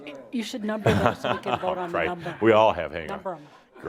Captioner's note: chuckling